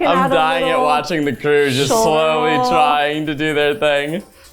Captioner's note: mumbling